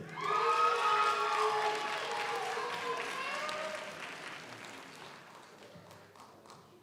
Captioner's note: audience cheers; audience applauds